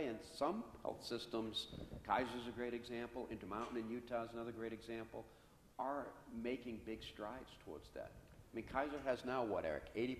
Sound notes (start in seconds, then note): none